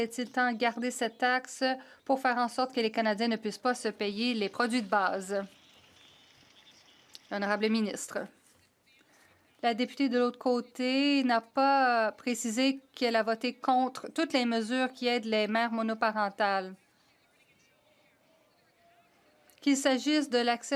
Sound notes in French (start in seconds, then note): 12.5 voix de l'interprète